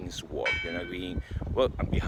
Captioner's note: bell rings